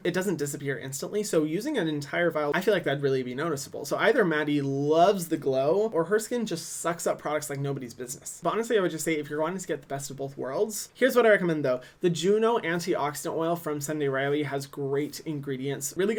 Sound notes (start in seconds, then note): none